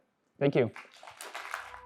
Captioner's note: applause